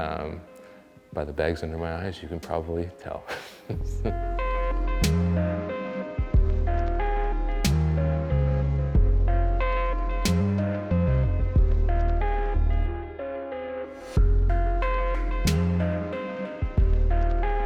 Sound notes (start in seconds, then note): 3.3 laughs; 5.4 funky instrumental music